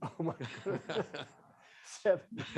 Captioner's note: laughs